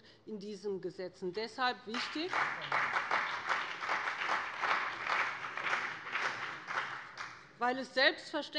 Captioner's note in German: Beifall bei dem BÜNDNIS 90/DIE GRÜNEN und der CDU